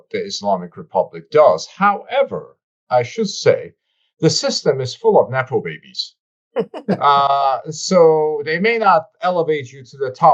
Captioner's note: laughter